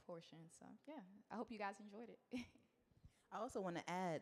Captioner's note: chuckles